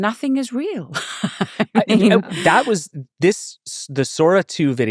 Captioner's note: laughing